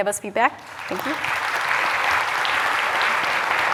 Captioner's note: applause